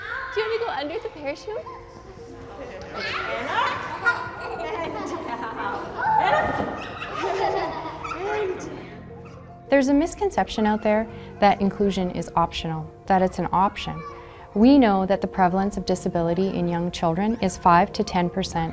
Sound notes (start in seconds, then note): 2.8 children giggling; 6.3 laughs